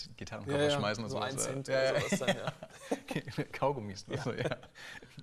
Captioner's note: laughs